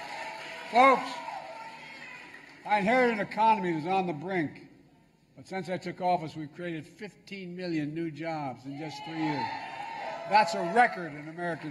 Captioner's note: applause